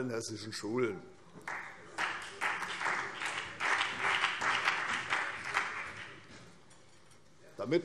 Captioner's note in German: Beifall CDU und BÜNDNIS 90/DIE GRÜNEN